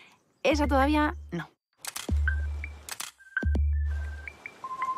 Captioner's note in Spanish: Disparos cámara